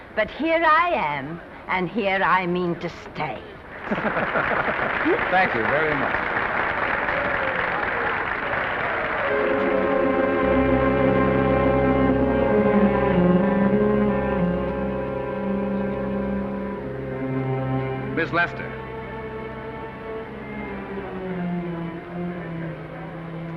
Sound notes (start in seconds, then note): 3.7 men laugh; 3.8 audience applause; 7.2 audience applause; 9.3 dramatic ominous music; 19.7 ominous music